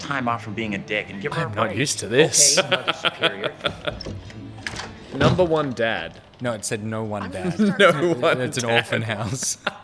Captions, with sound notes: - I am not used to this. - (CHUCKLING) - "Number One Dad" - No, it said "no one Dad." - (CHUCKLING) "No one Dad?" - It's a haunted house...